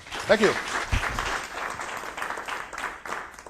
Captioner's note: applause